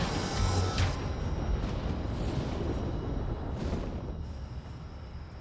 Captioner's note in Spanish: ruido de la tormenta